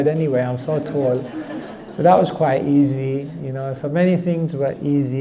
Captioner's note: audience laughter